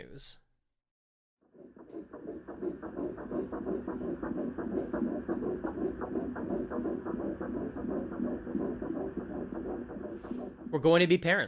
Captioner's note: ultrasound of a baby’s heartbeat